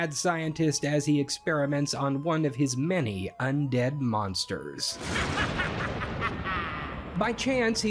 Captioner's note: thunder, evil laughter